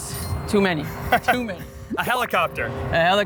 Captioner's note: laughing